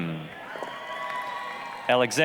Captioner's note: applause, cheering